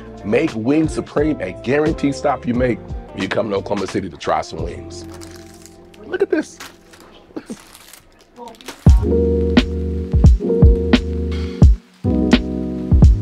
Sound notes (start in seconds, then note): 4.9 paper crinkles; 9.3 lighthearted music